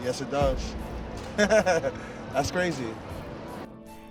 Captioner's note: laughs